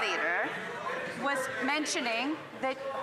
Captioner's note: yelling